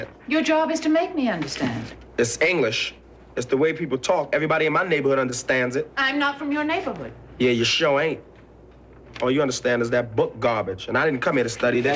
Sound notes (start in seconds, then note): none